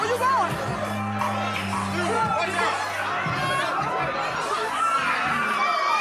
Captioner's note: crowd yelling